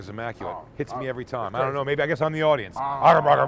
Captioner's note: grunting